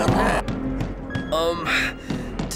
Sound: knocks

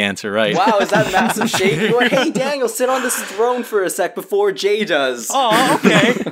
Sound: laugh

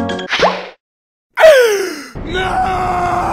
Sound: gasp

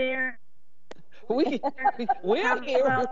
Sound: members laughing

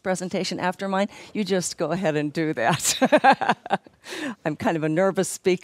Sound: laughs

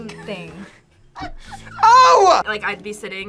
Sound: React laughs

